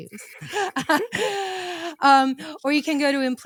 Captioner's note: laughing